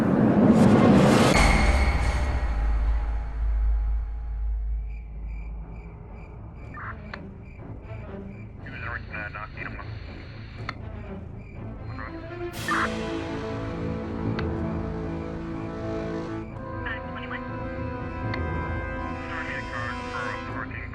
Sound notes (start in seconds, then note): 0.3 tense music; 5.1 crickets chirp; 6.5 dramatic music; 6.5 police radio chatters